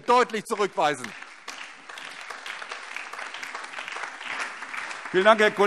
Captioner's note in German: Beifall DIE LINKE, CDU, BÜNDNIS 90/DIE GRÜNEN und SPD